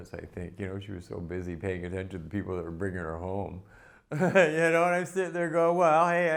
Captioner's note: laughter